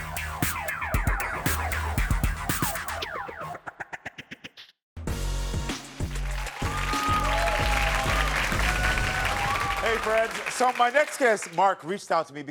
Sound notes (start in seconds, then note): 5.0 upbeat music; 6.0 audience applauds